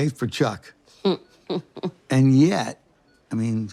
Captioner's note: laughs